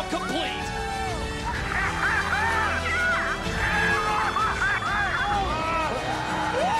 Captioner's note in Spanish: aplausos